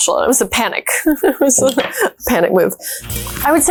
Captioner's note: laughs